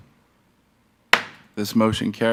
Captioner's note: gavel thuds